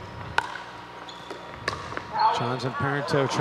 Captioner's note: ball bouncing